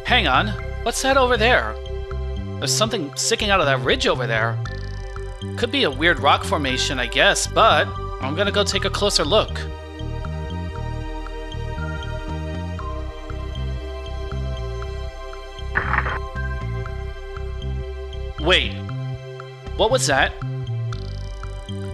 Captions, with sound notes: Hang on... What's that over there? There's something sticking out of that ridge over there. Could just be a weird rock formation, I guess, but... I'm gonna go take a closer look. (CRACK) Wait... What was that?